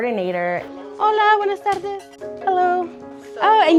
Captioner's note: speaking Spanish